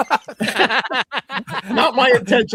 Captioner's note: laughter